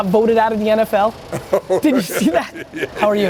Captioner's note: laughs